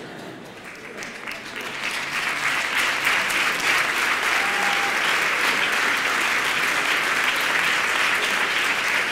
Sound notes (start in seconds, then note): 0.1 applause